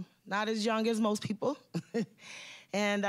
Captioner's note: chuckling